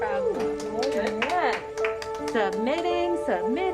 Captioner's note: people applauding